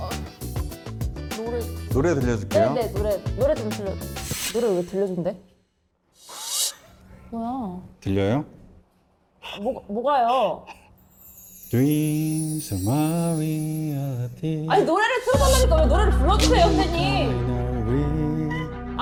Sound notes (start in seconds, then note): 10.2 sound of holding breath